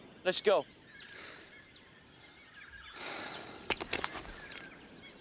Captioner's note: John panting